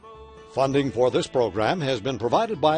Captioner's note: voiceover